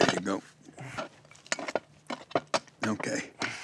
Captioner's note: scraping sounds